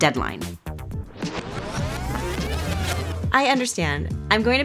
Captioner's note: tape whirring